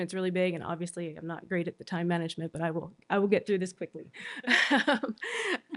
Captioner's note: laughter